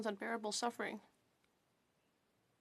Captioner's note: speaking French